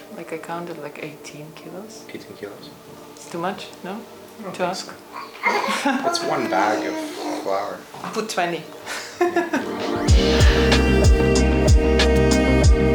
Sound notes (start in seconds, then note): 9.4 upbeat music; 9.5 laughs